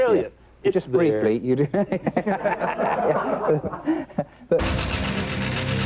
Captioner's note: laughs